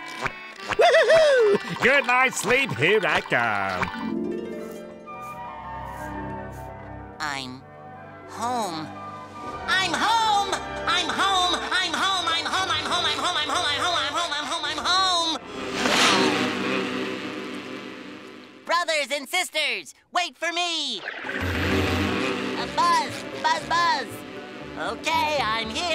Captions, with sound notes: Whoo hoo hoo. Good night sleep, here I come. I'm... home. I'm home! I'm home! I'm home! I'm home! I'm home! I'm home! I'm home! I'm home! I'm home! I'm home! I'm home! [buzzing] Brothers and sisters, wait for me. [buzzing] Buzz! Buzz! Buzz! Okay, I'm here.